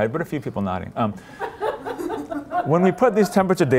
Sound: laughter

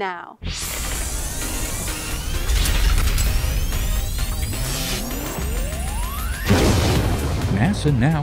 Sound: sound Effects

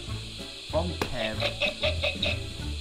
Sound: dec’s buzzer

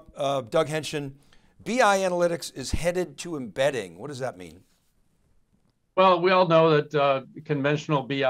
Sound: none

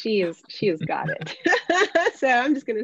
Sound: laughing

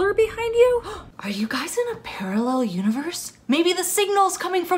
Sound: excited

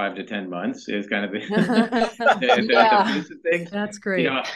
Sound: laughter

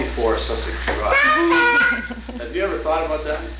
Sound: chuckles

